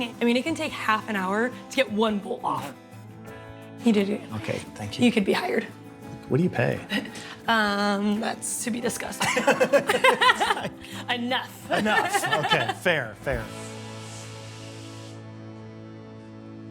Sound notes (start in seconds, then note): 9.5 both laughing; 13.8 light instrumental music